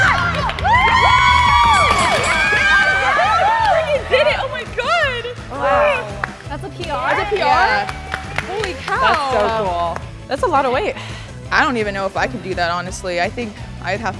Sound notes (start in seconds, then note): 0.2 proud cheering; 1.6 bell dings; 8.3 applause